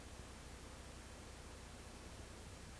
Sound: none

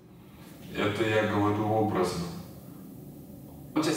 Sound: speaking in foreign language

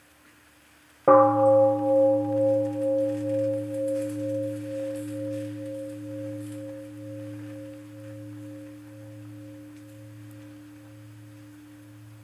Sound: one sound of bell

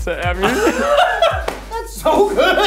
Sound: laughs

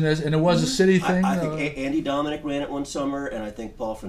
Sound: voiceover

